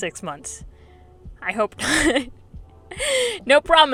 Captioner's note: laughs